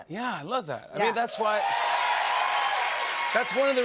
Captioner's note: cheers and applause